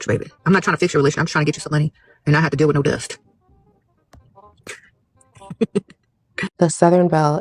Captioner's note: cackles